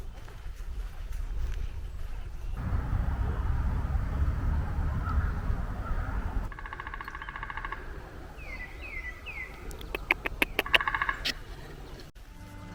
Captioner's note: nature Sounds